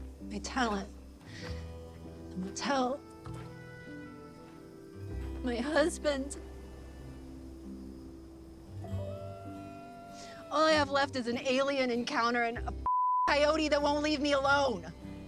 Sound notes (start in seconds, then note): 9.0 coyote howling in distance